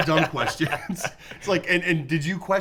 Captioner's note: laughs